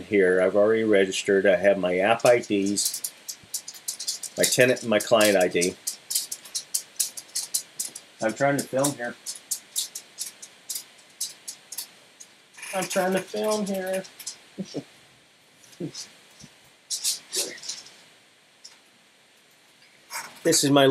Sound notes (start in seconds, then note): 2.1 Sounds of my Corgi, Daisy, walking across the floor